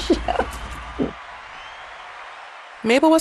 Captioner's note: laughter; cheering, applause